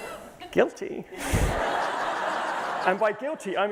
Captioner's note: laughter